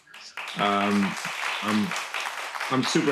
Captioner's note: audience applauding